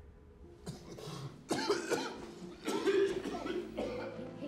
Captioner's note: coughs